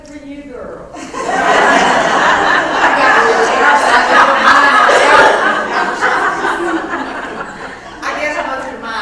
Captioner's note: laugh